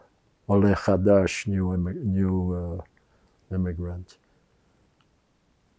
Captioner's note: hebrew